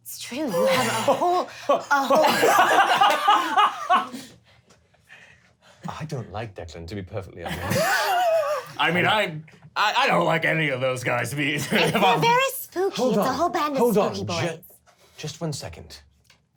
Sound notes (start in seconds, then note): 2.5 laughter